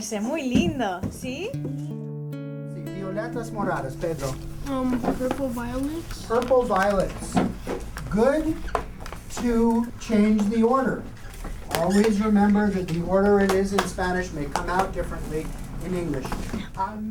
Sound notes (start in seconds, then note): 3.5 speaks spanish